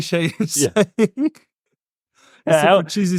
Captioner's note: laughs